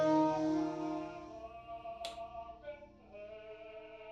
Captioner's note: light switch clicking on